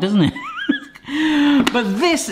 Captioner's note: laughs